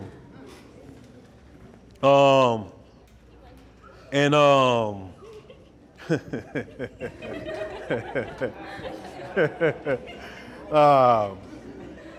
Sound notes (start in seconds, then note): 6.6 chuckles; 9.1 audience chuckles